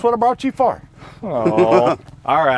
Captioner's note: laughs